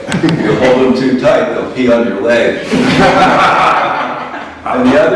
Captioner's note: laughter